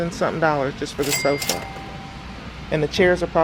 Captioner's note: cash register rings